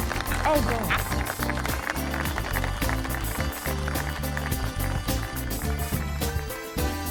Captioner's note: audience applauding; upbeat music